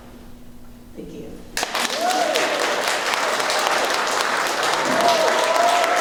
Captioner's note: applause